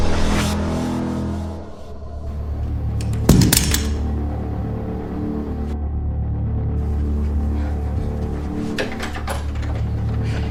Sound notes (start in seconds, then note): 3.2 guns thuds on floor